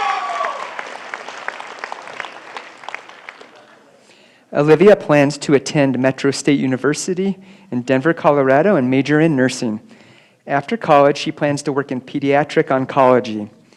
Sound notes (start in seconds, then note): 0.0 applause